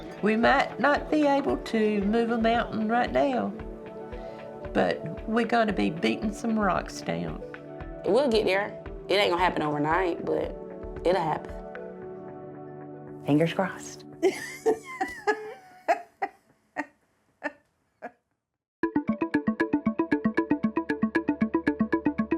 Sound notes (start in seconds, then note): 14.3 laughs; 18.8 upbeat music